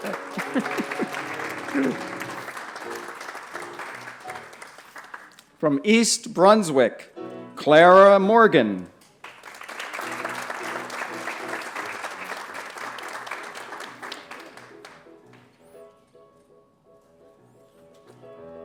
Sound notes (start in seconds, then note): 0.0 scattered laughter & applause; 9.2 applause